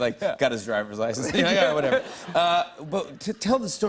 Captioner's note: laughter